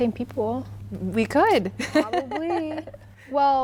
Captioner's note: laughing